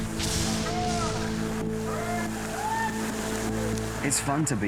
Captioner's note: cheering